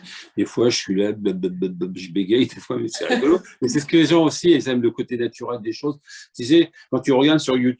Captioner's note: stuttering; laughter